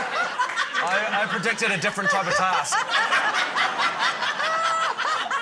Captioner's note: laughter